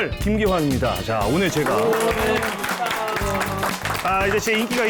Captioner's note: is welcomed with an applause / Hoho